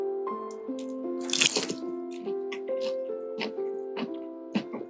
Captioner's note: incredible crunching